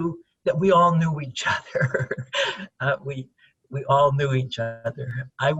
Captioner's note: chuckles